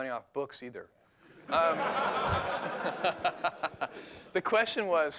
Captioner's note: laughter